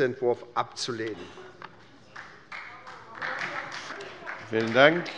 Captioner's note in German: Beifall bei der SPD